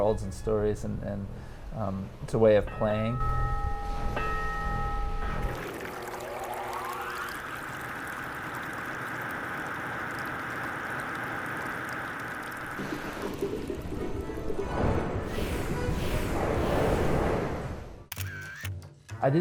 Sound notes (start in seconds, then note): 2.7 bell ringing; 5.3 water running